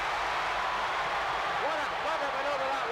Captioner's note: crowd cheers